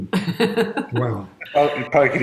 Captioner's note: chuckles